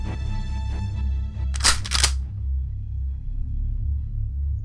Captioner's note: shotgun cocks